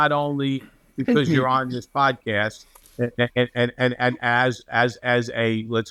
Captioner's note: laughs